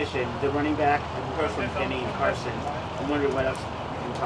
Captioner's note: people talking in background